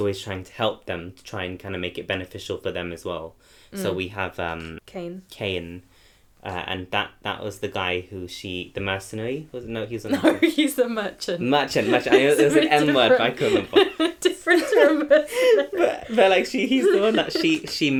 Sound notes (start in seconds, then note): 14.4 laughs